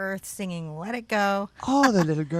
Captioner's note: laughs